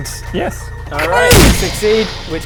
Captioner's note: bang!